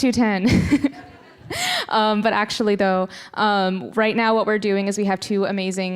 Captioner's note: laughing